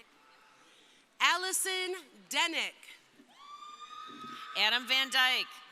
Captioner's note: crowd cheering